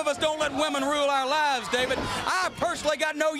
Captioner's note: crowd chatter